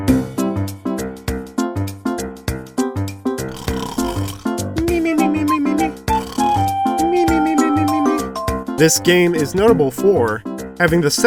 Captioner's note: snore mimimimi